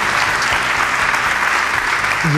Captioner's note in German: Applaus